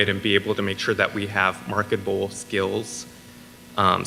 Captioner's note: none